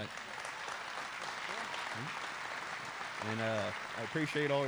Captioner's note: applause